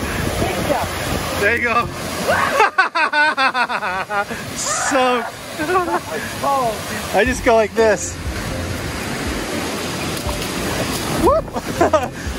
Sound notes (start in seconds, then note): 3.0 laughs